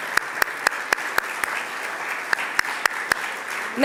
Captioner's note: applause